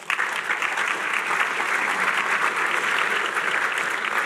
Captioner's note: applause